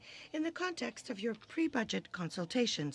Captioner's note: speaking in french